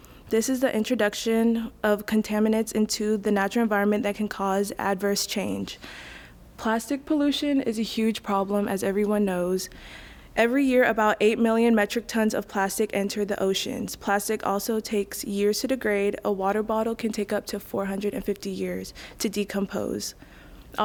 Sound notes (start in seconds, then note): none